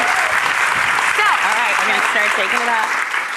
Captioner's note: audience clapping